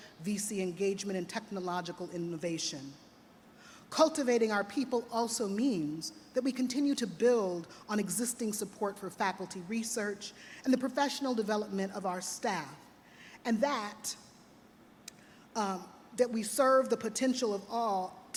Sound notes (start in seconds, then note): none